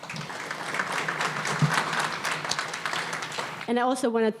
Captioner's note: audience applauding